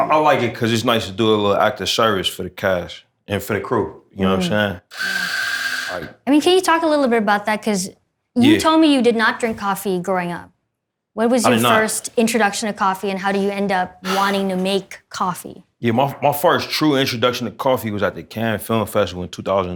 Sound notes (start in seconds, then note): 4.9 machine grinds espresso beans